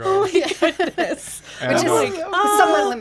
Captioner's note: group chattering